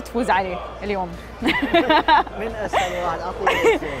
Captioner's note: laughing